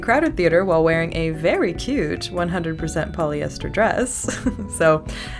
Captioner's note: laugh